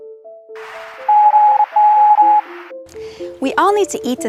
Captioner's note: machine beeping